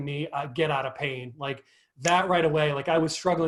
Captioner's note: clicks fingers